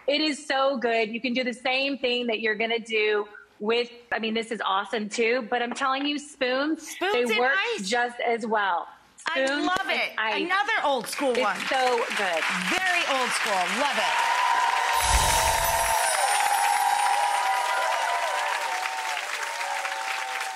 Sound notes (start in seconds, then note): 9.9 claps; 13.8 audience claps and cheers; 15.0 dazzling music; 16.3 audience clapping and cheering